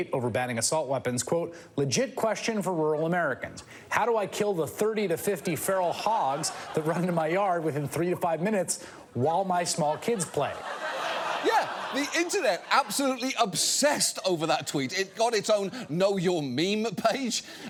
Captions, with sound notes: over banning assault weapons. Quote, "Legit question for rural Americans. How do I kill the 30 to 50 feral hogs that run into my yard within three to five minutes while my small kids play." -(STUDIO AUDIENCE LAUGHING) -Yeah, the Internet absolutely obsessed over that tweet. It got its own Know Your Meme page,